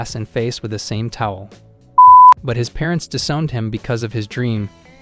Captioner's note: beep